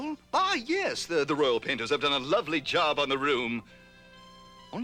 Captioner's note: none